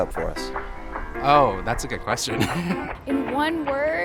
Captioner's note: laughs